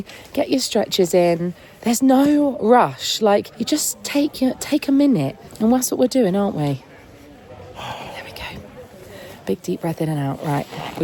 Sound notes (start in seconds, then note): 7.6 sighs